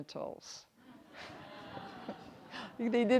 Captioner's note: everyone chuckles